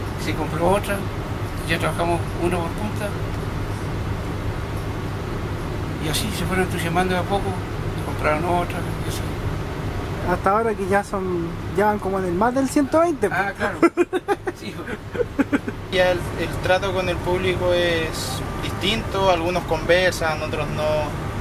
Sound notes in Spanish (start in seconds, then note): 13.6 risas